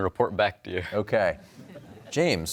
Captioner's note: laughter